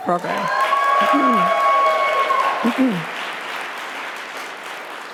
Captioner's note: audience applauding